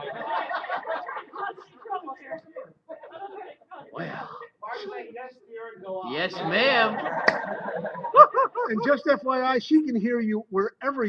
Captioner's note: laughter; more laughter; personal chatting